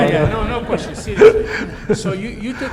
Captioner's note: everyone laughs